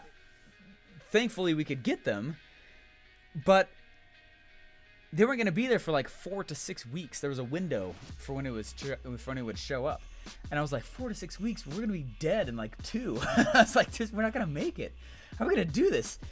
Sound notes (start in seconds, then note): 13.2 laughs